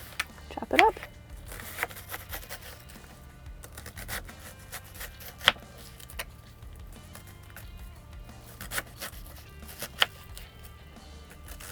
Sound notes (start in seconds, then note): 1.6 knife tapping; 1.6 onion crunching; 8.4 soft music